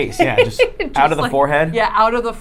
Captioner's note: laughing